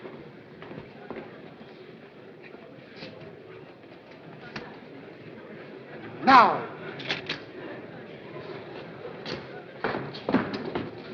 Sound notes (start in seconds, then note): 7.0 shutter clicks